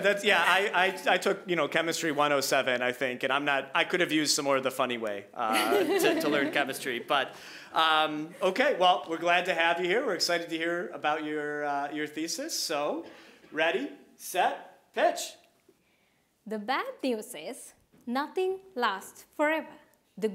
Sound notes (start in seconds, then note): 5.4 all laughing